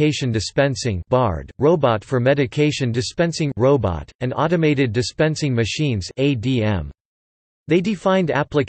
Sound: robot

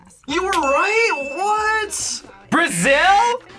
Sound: bell rings

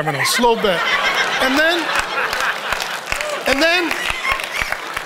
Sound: audience laughs

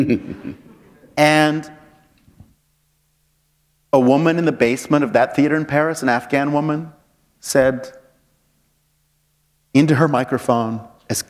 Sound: laughter

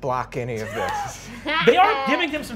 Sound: players laughing

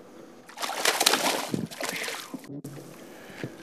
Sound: splash

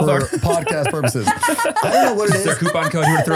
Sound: laughing

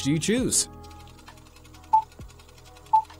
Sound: projector whirring; beeping

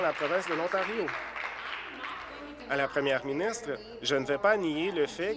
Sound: applause

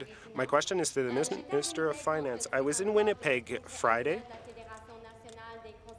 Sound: speaking in French

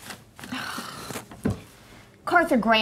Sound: sighing

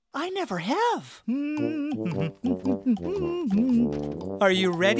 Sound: humming

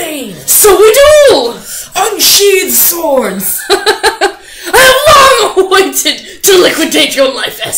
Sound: laughs

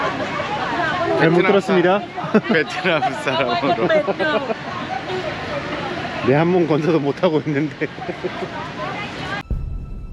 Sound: laugh

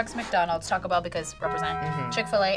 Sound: bell rings

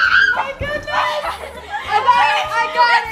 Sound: yelling

